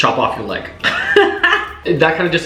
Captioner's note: laughing